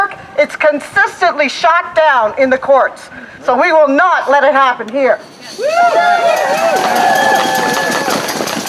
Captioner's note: applause